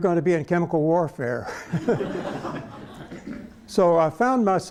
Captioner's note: laughter